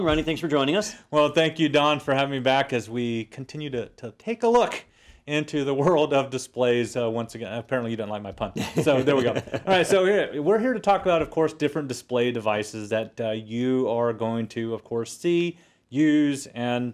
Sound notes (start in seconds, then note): 8.6 laugh